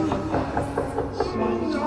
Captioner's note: knocking on the door